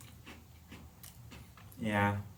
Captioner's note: chewing